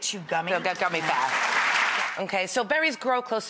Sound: audience applause

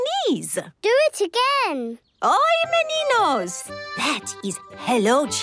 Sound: speaking Portuguese

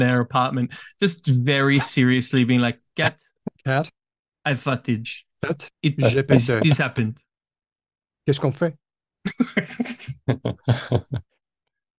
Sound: in a french accent

